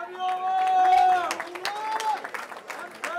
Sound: cheering

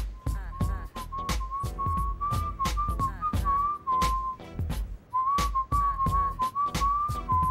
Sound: whistling

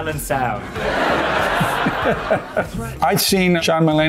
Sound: laughs

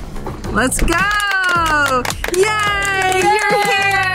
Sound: everybody claps

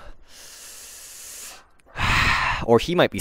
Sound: deep breathe

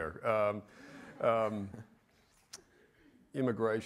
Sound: audience laughs

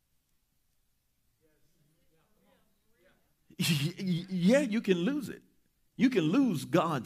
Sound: chuckling

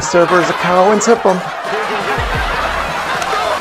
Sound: laughter

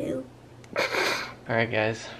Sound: snorts

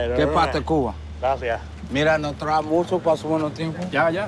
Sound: all speaking spanish

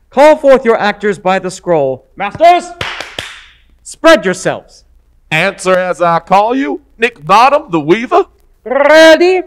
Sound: clap clap

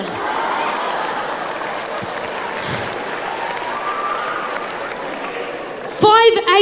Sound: crowd laughs

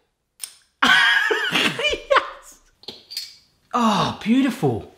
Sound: laughs

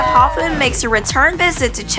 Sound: crowd cheering

